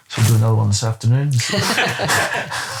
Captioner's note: laughing